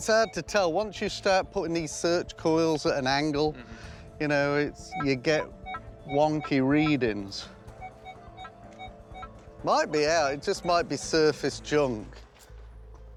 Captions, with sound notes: Once you start putting these search coils at an angle, you know, you get wonky readings. [beeping] It might be out. It just might be surface junk.